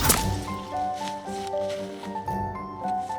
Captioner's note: headshot thud